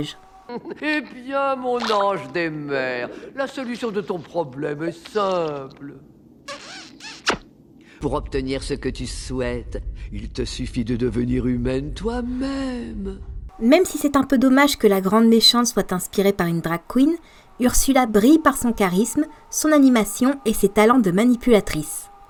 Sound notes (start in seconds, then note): 6.4 mwah !